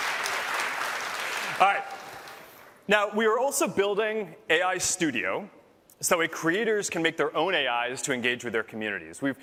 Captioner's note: applause